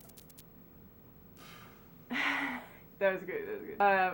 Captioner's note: blows air